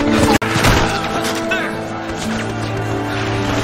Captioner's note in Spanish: Disparos